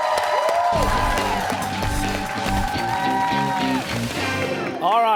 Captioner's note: cheers and applause